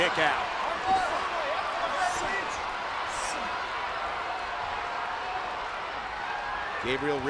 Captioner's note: crowd chatter